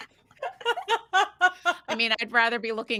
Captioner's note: person laughing